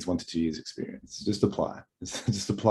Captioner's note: laughs